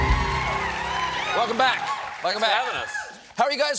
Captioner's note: applause